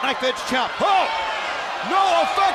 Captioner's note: exclaiming